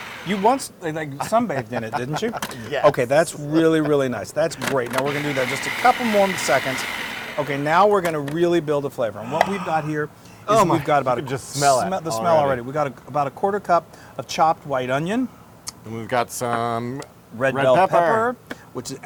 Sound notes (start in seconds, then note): 1.2 laugh